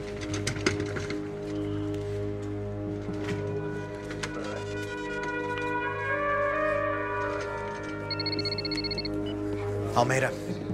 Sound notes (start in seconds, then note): 7.9 ringtone